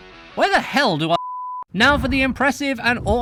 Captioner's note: beeeeeeeeeep